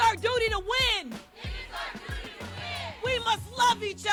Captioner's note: crowd